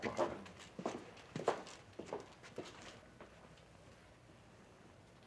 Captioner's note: footsteps